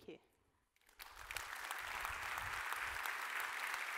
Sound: crowd applauding

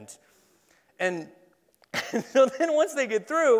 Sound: laughs

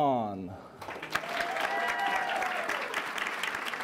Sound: applause

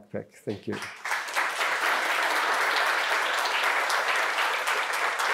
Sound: audience applauding

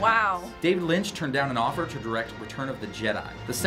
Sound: voice-over

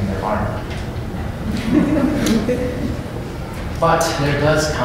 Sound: laughter

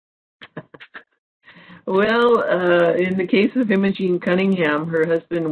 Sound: laughs

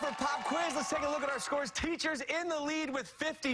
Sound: cheers and applause

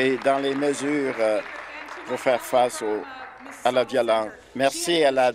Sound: applause

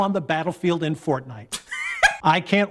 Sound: Dunkey laughs

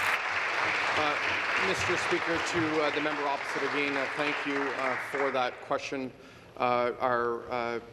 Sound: applause

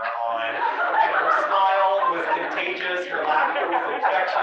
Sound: laugh

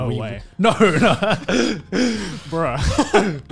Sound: laughing

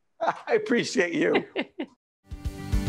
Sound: laughing

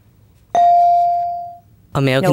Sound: bell dinging

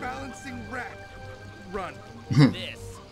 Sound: snerk

